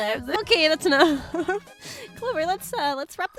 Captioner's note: laughs